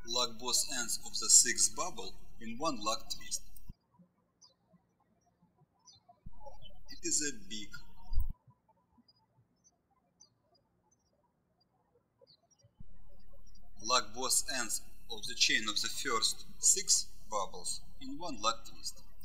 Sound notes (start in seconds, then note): 4.3 birds chirping; 8.7 birds chirping